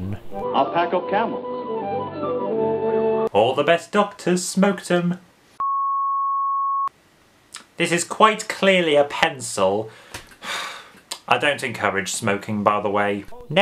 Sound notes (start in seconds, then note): 5.5 flat tone